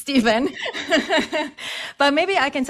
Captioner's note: laughs